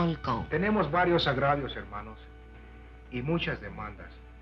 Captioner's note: Charley speaking Spanish